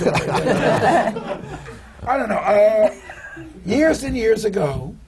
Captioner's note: laughter